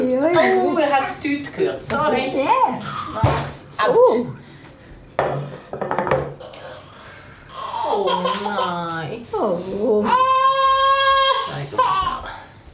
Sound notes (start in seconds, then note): 7.4 cries